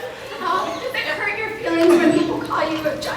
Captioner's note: croaks